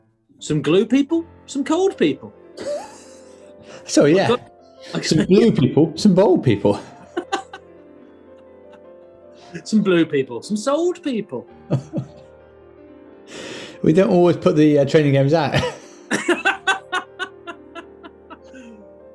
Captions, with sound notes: Some glue people, some cold people. [SNIGGERING] Sorry, yeah. Some blue people, some bold people. [LAUGHING] Some blue people, some sold people. [CHUCKLING] We don't always put the training games out! [LAUGHTER]